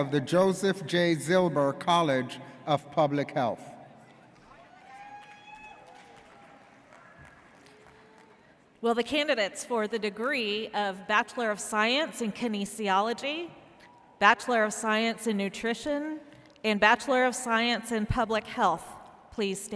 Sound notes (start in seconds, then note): 4.7 person cheers